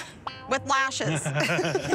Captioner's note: laughter